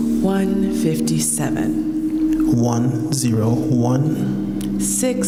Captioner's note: none